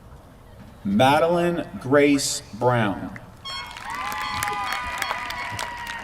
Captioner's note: applause